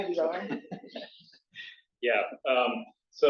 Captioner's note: laughter